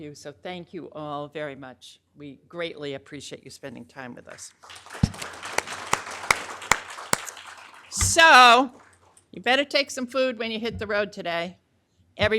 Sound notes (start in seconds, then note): 4.6 audience applauding